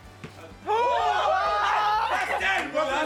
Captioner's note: group yells